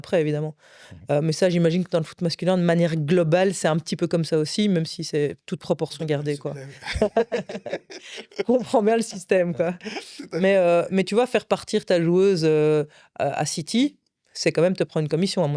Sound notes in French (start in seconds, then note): 6.5 rires